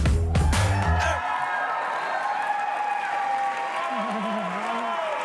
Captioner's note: applause